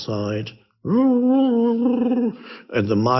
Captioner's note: vocalizes